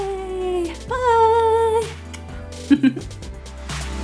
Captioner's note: laughs; upbeat electronic music